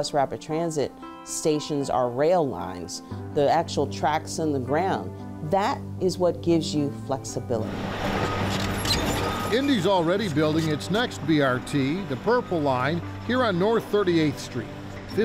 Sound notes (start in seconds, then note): 7.8 vehicle rumbles; 8.1 signal beeps